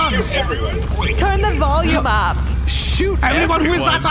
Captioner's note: shouting